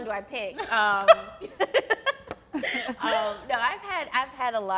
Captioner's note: laughs